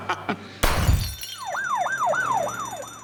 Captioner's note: laughter; siren blaring